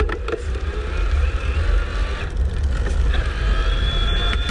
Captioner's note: motor whining